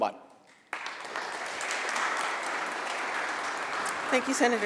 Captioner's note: applause